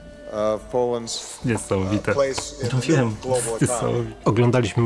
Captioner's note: in Polish